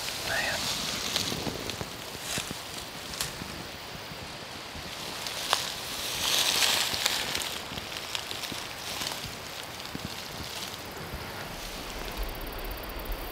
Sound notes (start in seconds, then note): 2.8 leaves crunching